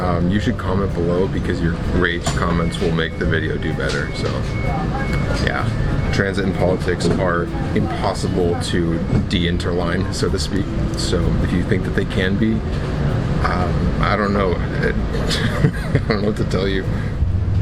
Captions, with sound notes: you should comment below because your rage comments will make the video do better. So ... yeah, transit and politics are impossible to ... De-interline, so to speak. So do you think that they can be, I don't know ... (laughs in pain) I don’t know what to tell you.